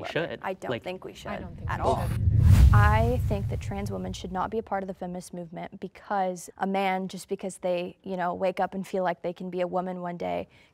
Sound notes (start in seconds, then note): 1.3 whooshing sound